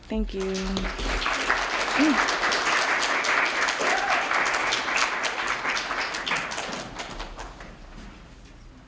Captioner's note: applause